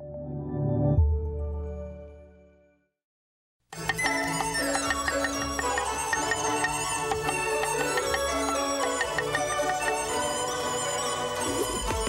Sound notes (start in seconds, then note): 3.6 joyful music; 3.8 clanking